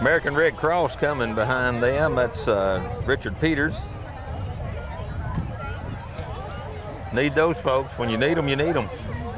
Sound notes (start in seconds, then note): 4.3 revving and chattering continue